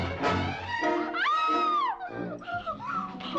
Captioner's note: Kate screams